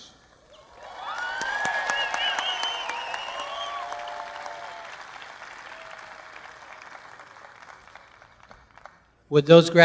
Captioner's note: applause